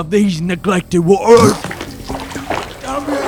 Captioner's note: eating sounds